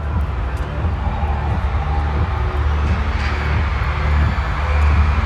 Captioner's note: noise from a crowd